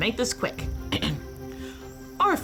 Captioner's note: Brigit clears her throat